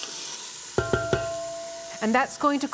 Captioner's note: sizzling; tapping